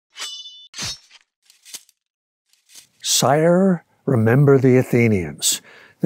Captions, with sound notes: (sword slashing) "Sire, remember the Athenians."